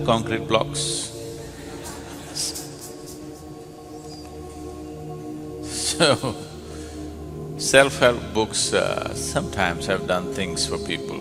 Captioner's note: laughter